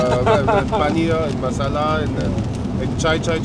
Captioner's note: immitating street vendors